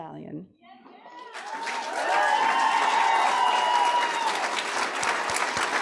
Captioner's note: audience applauding